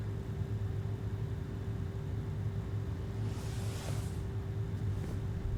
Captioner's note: air conditioner humming continues